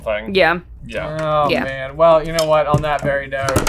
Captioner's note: groaning